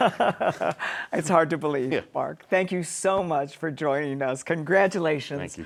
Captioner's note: laughs